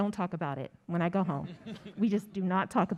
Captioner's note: audience laughs